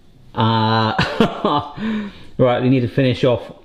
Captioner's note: laughs